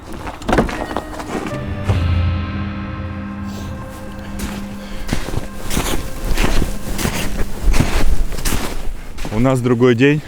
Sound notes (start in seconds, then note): 0.4 door squeaking; 5.6 snow squeaking